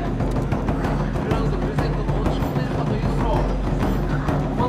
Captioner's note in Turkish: belirsiz konuşmalar